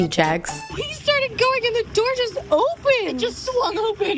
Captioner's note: hoots